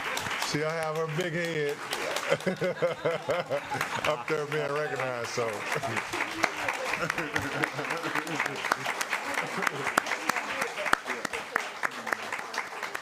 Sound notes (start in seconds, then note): 0.0 laughter; 6.7 laughter; 12.1 applause